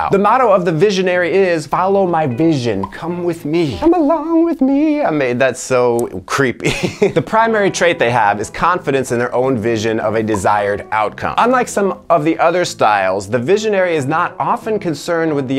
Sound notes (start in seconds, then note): 6.6 laughs